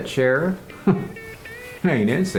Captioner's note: laugh